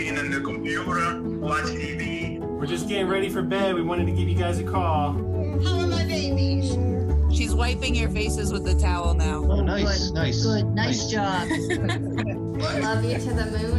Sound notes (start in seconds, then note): 11.4 laughter